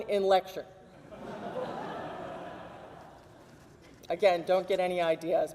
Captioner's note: audience laughs